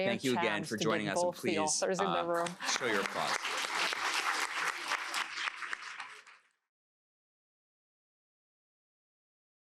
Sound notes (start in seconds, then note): 2.4 applause